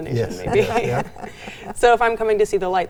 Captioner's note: all laugh